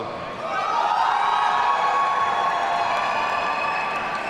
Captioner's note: audience cheering